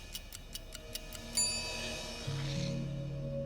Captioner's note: timer ticking; ding